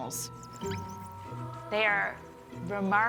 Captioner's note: squeaking